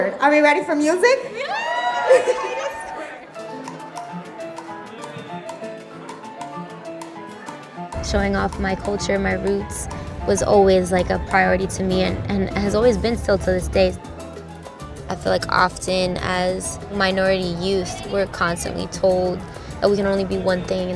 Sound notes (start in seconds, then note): 1.3 crowd cheering